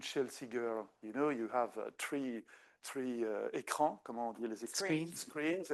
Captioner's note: speaking French